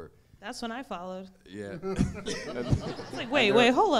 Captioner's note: audience laughing